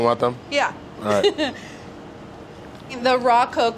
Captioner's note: laughs